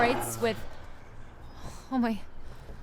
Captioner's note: animal growling